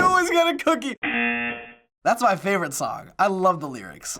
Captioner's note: laughs; buzzer